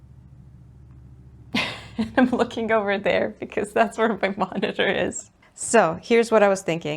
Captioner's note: laughs